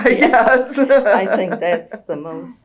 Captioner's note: laughs